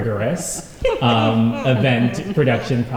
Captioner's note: laughter